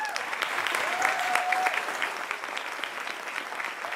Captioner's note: applause